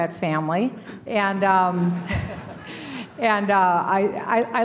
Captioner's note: laughter